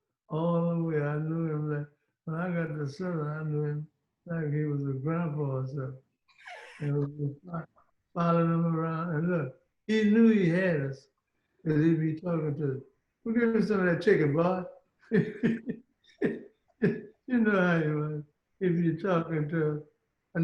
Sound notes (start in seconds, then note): 10.6 laughing